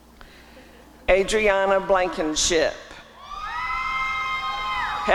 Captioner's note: applause and cheering